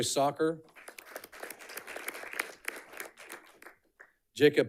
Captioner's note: audience clapping